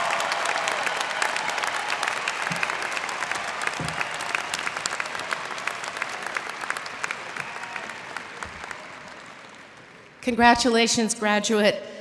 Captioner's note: cheers and applause